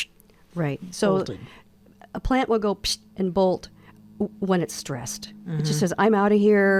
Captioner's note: exhales